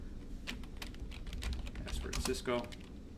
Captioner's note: keyboard typing